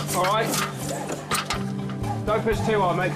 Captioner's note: metal clanking